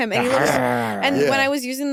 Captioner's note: snarls